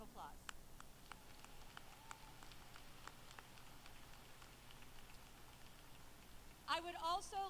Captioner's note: applause